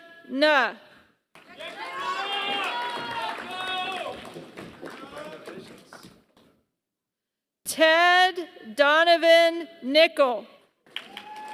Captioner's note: applause; applause